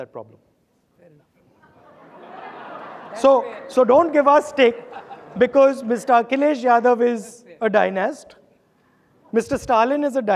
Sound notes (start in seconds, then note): 3.6 audience laughing